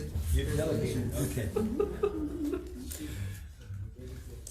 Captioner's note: laughter